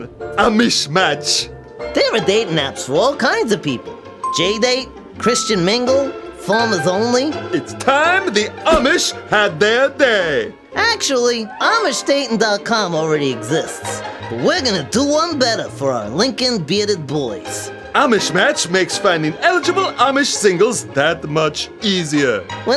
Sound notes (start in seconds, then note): 4.2 ding; 4.2 higher pitched ding; 5.2 even higher pitched ding